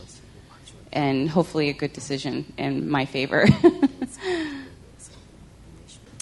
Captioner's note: laughter